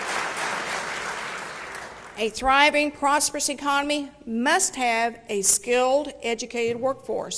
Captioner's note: applause